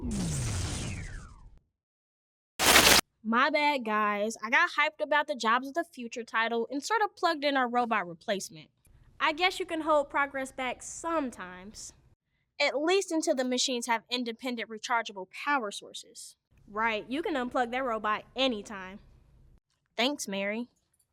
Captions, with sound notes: (electricity crackling and whirring) (screen crackling) My bad guys. I got hyped about the jobs of the future title and sort of plugged in our robot replacement. I guess you can hold progress back sometimes. At least until the machines have independent rechargeable power sources, right? You can unplug that robot anytime. Thanks, Mary.